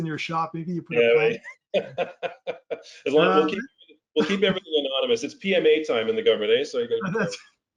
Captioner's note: laugh; laugh